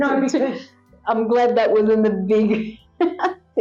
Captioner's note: laugh